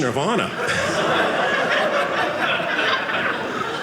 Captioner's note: audience laughing